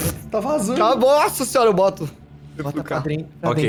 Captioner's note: spit